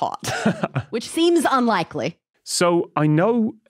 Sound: chuckles

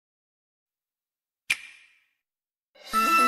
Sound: digitally-generated clap; grand music plays

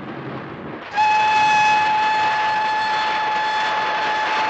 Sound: train whistle blows

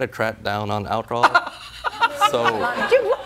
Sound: laughing

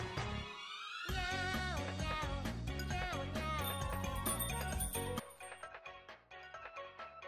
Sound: door chime jingles

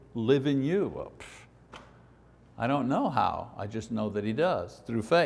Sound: pss

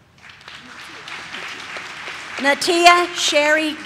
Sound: audience claps

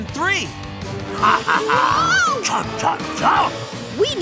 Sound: chomping

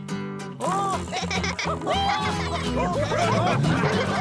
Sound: all laughing

